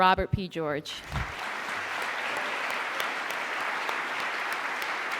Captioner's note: audience applause